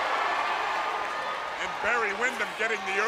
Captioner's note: crowd cheering